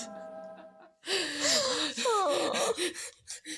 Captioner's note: laughter